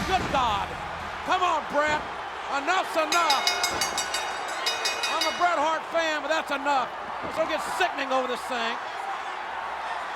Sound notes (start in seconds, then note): 3.1 bell dinging